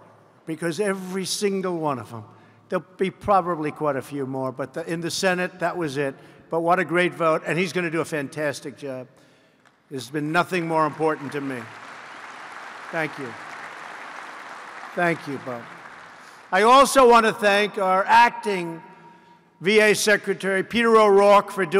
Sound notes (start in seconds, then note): 10.5 applause